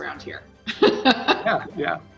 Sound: laughs

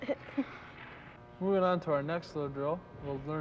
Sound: laughs

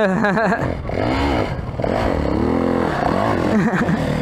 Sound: engine revving

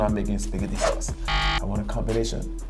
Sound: buzzer beeps

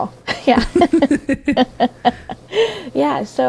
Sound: both laughing

